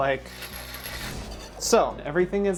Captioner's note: grinder clicking